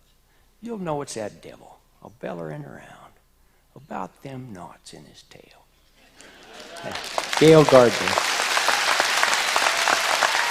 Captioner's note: applause